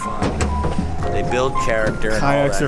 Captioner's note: clattering